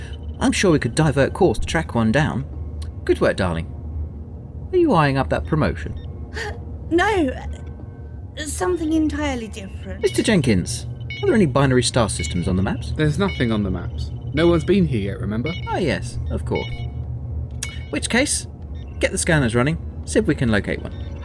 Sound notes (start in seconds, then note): 6.1 laughs; 7.2 quietly